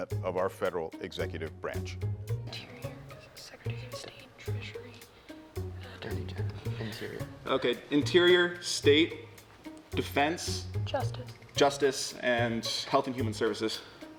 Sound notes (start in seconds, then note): 2.7 pensive music; 5.1 whispering